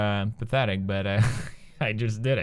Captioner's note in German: lacht